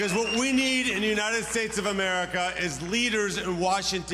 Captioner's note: audience cheering